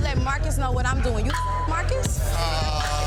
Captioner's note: beeps; overlapping chatter